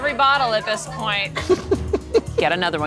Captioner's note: laughs